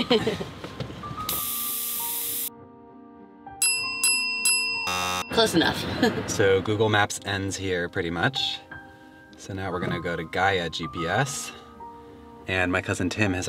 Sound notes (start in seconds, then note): 0.0 giggling; 1.3 tire air hissing; 3.6 bells dinging; 4.8 buzzer blaring